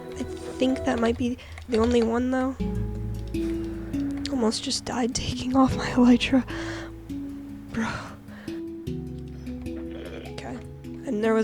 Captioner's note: ghasp